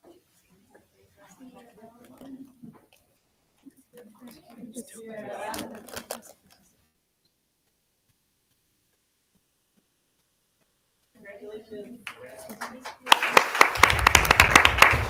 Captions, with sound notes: (attendees chattering) (attendees chattering) >>Congratulations. (audience applauding)